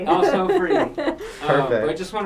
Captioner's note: laughs